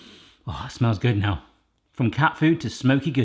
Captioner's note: sniffs